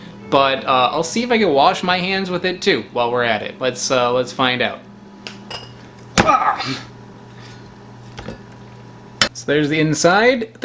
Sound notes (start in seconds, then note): 5.5 knife clinks; 6.2 man grunts